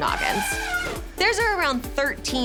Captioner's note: elephant trumpeting